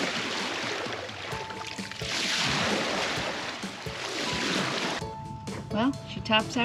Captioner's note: water splashing